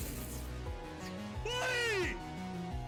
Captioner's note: screams